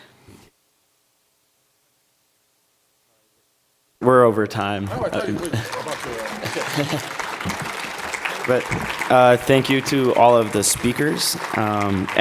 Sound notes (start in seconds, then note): 4.8 applause